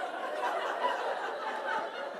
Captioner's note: laughter